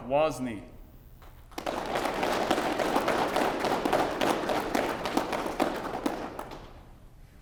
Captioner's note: applause